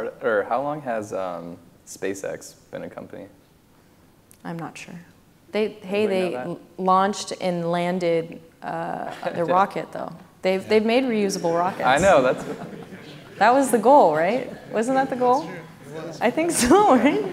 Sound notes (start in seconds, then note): 11.5 laughs